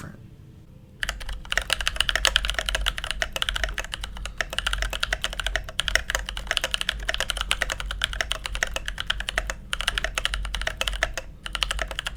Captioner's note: typing